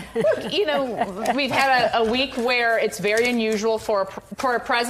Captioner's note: laughter